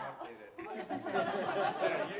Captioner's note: laughter